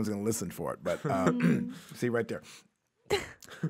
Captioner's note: clears throat